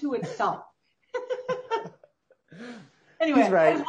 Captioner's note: laughing softly